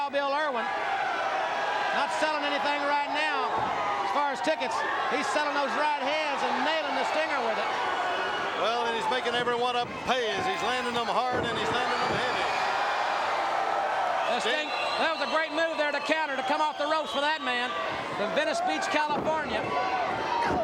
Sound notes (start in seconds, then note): 1.4 crowd cheering; 16.8 crowd cheering